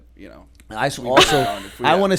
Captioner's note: laughter